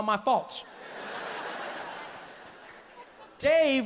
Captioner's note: audience laughs